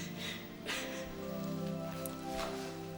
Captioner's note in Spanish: llorando